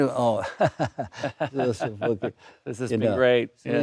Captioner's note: laughing; Alexander laughs